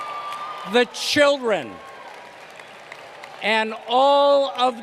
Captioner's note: applause